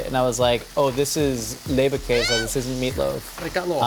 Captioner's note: screams